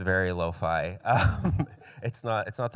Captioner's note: chuckles